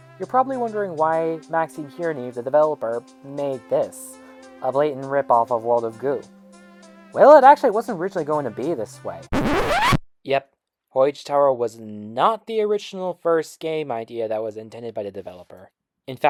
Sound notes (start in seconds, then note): 9.2 record scratch